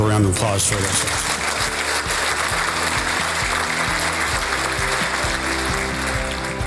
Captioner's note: applause with music being played in the background